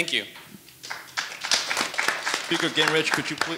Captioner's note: audience applauding